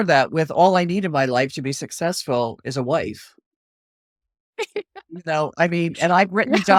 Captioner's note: laughs